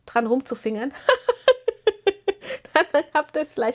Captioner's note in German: gelächter